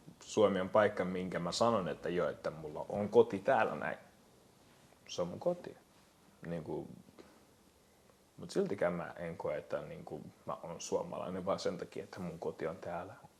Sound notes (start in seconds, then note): none